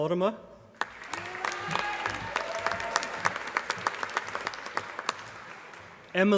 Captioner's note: applause